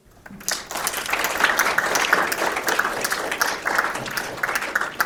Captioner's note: audience applauding